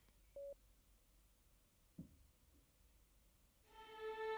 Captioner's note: phone beeping; dramatic orchestral music